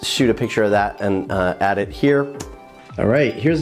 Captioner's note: imitates popping